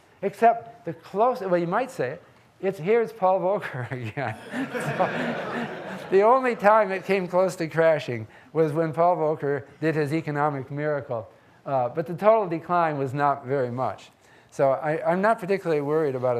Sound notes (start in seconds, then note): 4.2 laughs; 4.3 audience laughing